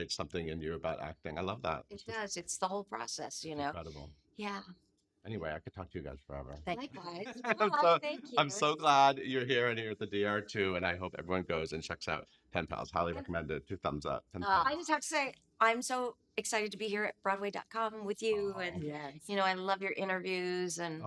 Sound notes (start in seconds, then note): 6.9 laughing